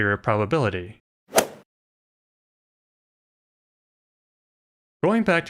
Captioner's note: golf ball hit sound